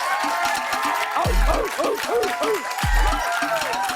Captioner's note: barking